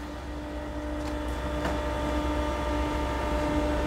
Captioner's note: soft whirring